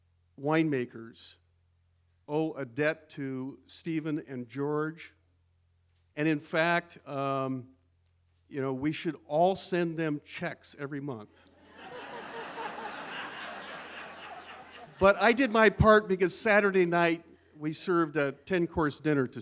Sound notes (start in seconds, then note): 11.6 laughter